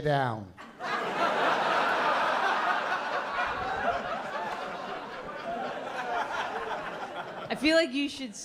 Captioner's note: laughter